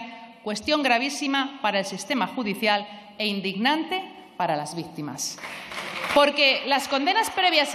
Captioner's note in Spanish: aplausos